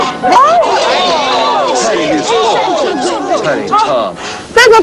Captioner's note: overlapping chatter